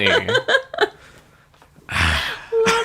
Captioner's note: disgusted sigh; laughs